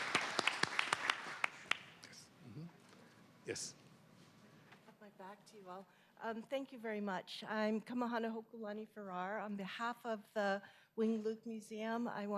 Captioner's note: applause